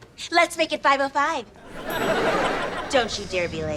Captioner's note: audience laughter